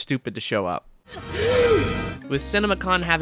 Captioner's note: Jonkler GASP